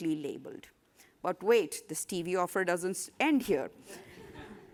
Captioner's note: laughter